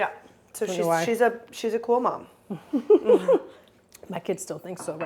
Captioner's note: chuckles